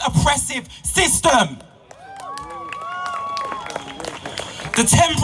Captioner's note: applause and support from crowd